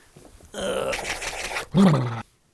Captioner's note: vigorous lip flapping; vigorous rubbing